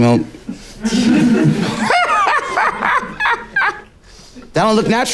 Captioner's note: people laughing